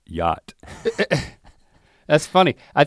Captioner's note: chuckles